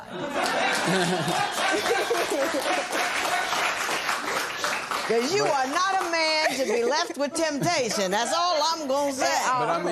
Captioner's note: laughter and applause